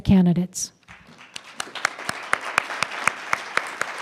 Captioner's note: applause